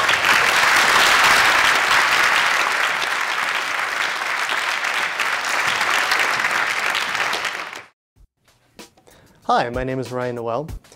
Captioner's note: applause